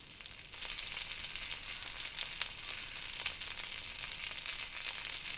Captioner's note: sausages sizzling